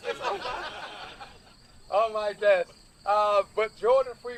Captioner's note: laughter